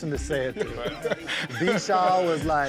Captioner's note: laughs